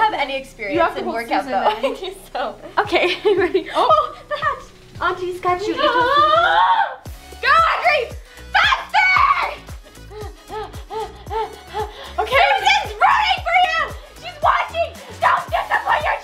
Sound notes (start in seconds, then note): 6.7 groans; 9.9 pants